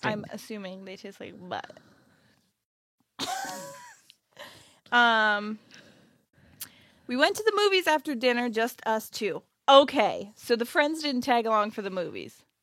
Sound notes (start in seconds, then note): 2.3 laughs